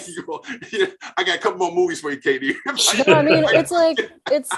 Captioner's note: laughing